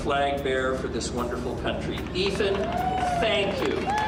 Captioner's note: cheers and applause